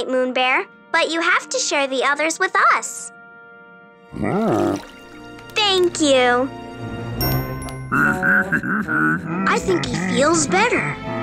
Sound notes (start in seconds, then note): 4.1 growling; 7.9 laughing